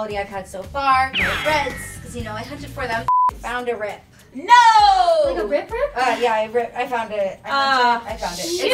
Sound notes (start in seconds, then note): 1.1 beeps